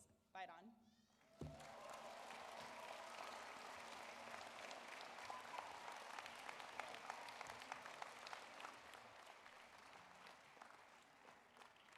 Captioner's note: applause